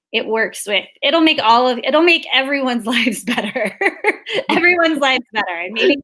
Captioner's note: laughs